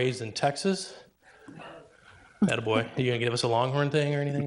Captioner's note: speaks distantly